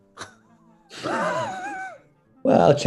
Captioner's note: sniggering